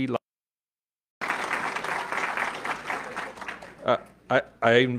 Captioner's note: audience clapping